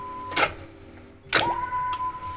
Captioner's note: clicking